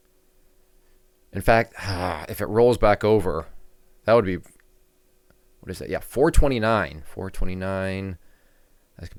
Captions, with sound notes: In fact, (groans) if it rolls back over, that would be, what is it? Yeah, 429. 429.